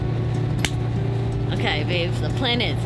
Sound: clap

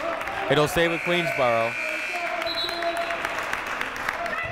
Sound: buzzer ringing; whistle blowing

